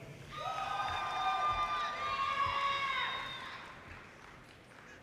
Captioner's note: audience cheers and applause